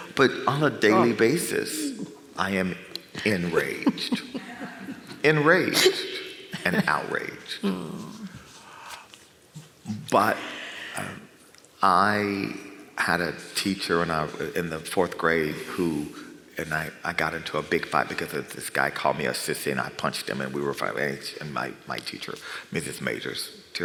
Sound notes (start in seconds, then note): 3.1 chuckles